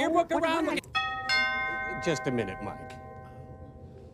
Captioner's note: doorbell rings